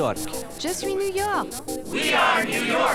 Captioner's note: French